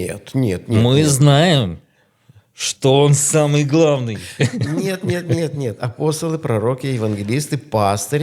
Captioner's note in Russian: смех